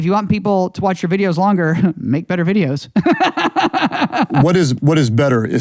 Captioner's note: laughs